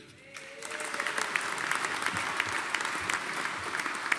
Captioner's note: audience applauding